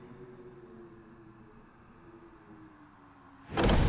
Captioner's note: wind howling; sinister music